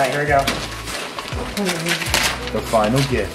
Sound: paper rustling

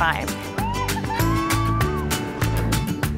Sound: cheering; upbeat music

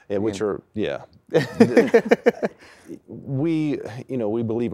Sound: laughter

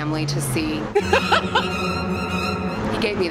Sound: laughing

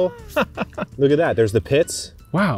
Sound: laughs

